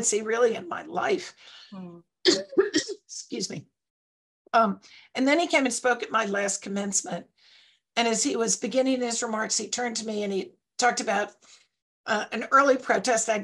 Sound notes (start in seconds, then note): 2.2 coughs